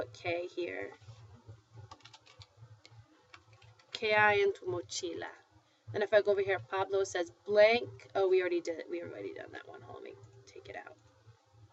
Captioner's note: foreign language